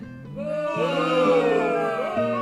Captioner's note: boos